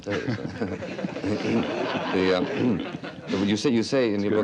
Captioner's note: audience laughing